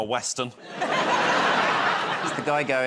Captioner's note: laughter